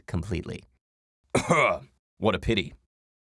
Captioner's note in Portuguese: Tosse